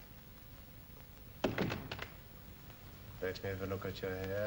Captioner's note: door closes